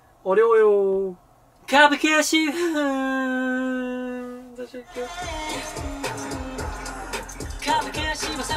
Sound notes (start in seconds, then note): 2.4 he cries